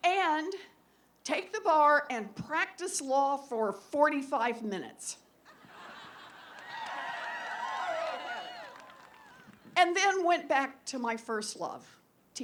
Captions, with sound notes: And take the bar and practice law for 45 minutes. [APPLAUSE] And then went back to my first love--